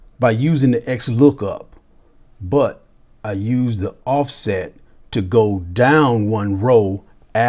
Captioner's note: none